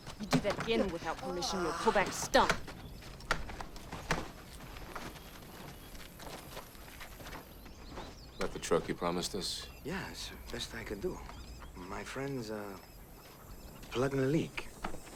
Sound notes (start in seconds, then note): none